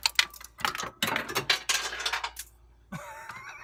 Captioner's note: wrench falls through, to ground